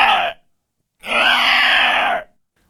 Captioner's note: alien sounds